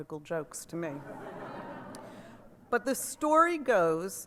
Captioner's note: laughter